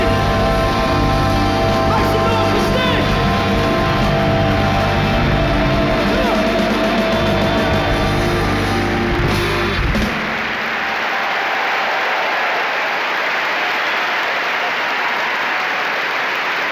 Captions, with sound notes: - We love you, Sting. Make some noise for Sting. (upbeat instrumental music) (audience clapping) (audience cheering)